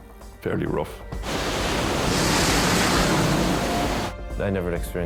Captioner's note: waves roar